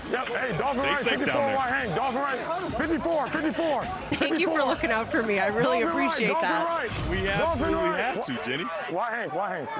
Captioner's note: laughter